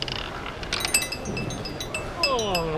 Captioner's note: red and blue pieces chime